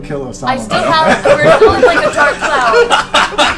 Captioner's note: all laugh